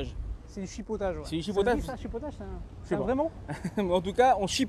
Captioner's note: laughs